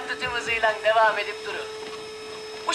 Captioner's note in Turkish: Elektrikli süpürge sesi